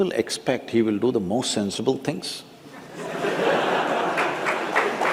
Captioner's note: laughter/Applause